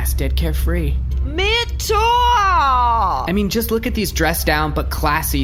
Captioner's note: despairing